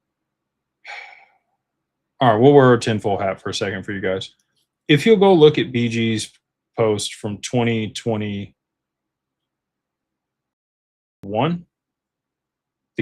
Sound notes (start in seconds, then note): 0.8 sighs